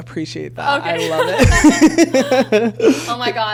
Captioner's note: laughs